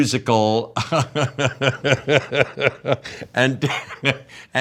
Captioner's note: Jeff laughing